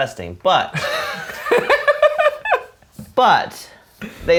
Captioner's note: laugh